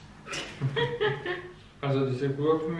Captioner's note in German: laughs